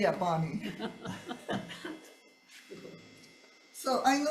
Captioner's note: senators laughing